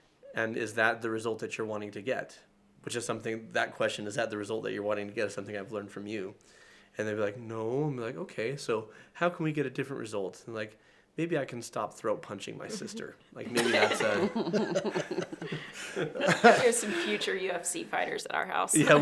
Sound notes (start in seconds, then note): 13.4 laughs